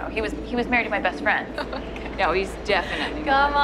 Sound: laughing

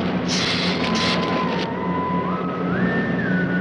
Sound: hissing

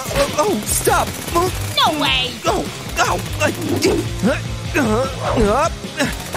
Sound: making happy sounds

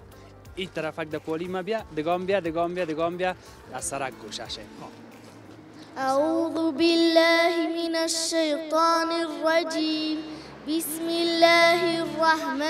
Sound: Reciting Quran

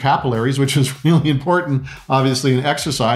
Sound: laughing

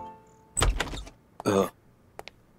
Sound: door opens

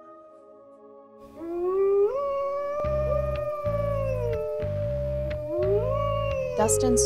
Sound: wolves howl

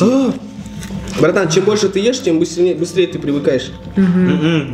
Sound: agrees quietly

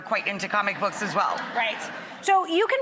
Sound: laughter from audience

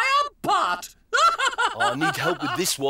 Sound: Hubba Hubba laughs

